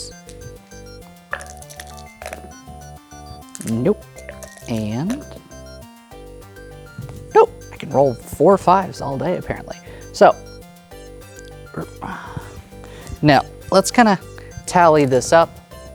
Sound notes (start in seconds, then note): 1.4 dice rattling; 3.4 dice rolling; 3.4 dice rattling; 4.3 dice rolling; 11.6 grumbles